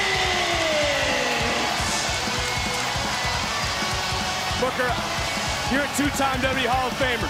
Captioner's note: crowd cheering